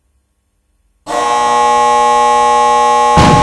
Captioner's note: buzzer